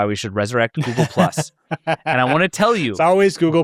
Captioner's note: laughs